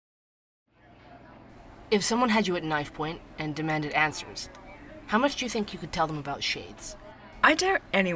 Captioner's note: ambience - coffee shop